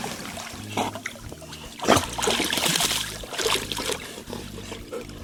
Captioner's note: dog snorting